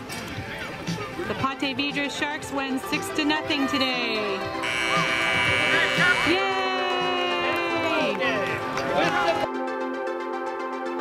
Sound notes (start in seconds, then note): 4.6 buzzing; 8.1 upbeat music